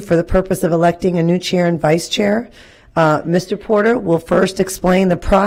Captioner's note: none